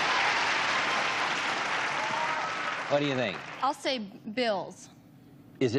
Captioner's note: applause